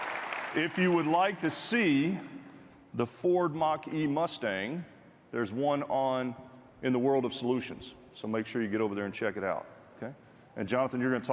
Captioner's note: applause